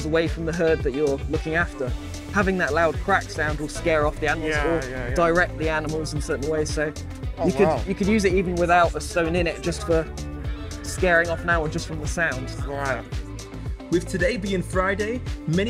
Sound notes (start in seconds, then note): none